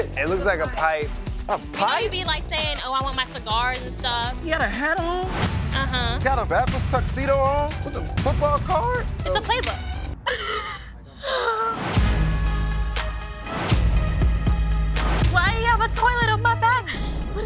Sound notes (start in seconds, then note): 10.2 cries; 12.0 dramatic music